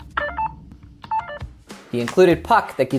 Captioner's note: controller chimes